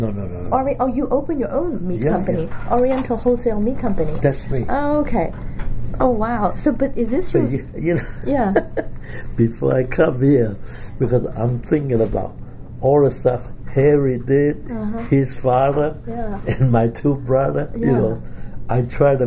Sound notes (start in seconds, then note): 9.3 laughs